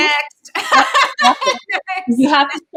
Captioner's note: laughs